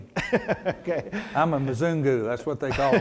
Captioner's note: laughs